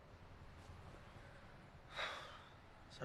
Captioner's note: exhales